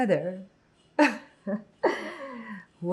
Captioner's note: laughing